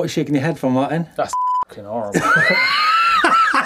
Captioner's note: beep; laughing